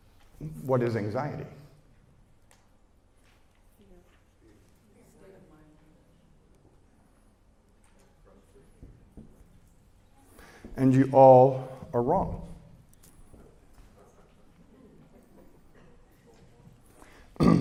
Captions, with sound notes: What is anxiety? (Audience Murmuring) And you all are wrong.